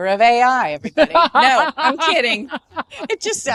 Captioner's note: all laughing